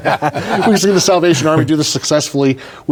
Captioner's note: laughing